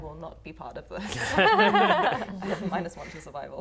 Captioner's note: laughing